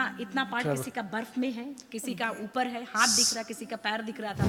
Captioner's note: speaks foreign language